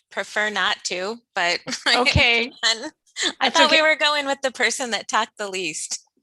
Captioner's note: laughs